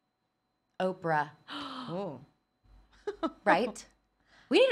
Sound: gasps; laughs

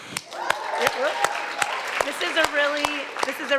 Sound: audience cheers

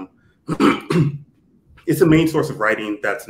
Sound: throat clearing

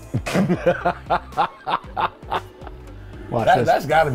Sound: laughing

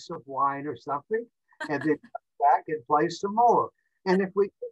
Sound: laughs

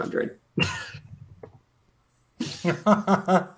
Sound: laughter

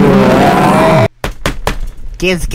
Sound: table smacks

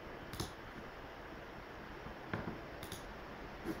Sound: mouse clicking

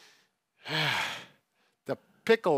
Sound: sighs

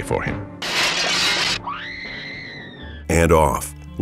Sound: scream

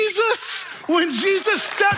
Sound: audience applauding

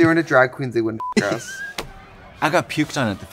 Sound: beep

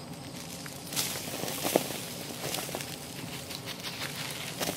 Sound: dirt swooshing and plopping

